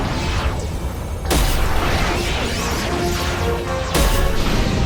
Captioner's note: electrical noise, shields struggling